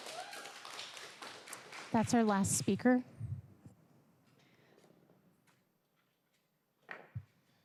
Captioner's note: applause